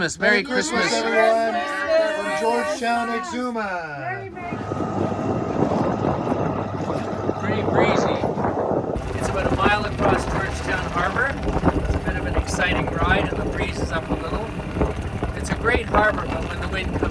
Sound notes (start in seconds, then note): 1.6 all shouting; 4.8 boat engine rattling; 4.8 wind rattling